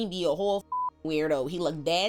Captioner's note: beep